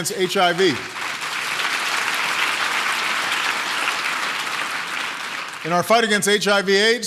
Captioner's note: applause